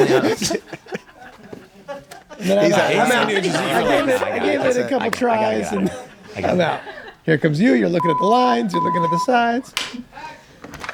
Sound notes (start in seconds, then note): 1.3 group laughs; 3.9 laughs